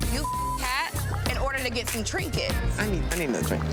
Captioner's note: beep